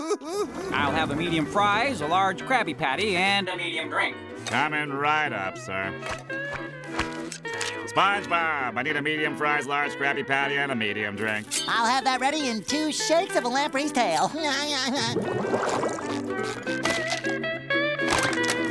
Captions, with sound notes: I'll have a medium fries, a large Krabby Patty and a medium drink. Coming right up, sir. SpongeBob, I need a medium fries, large Krabby Patty and a medium drink. I'll have that ready in two shakes of a lamb ray's tail. [laughing]